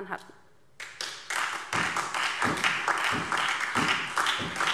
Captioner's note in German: Beifall DIE LINKE und vereinzelt SPD